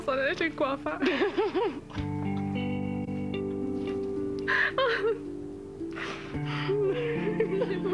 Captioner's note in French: Elles rient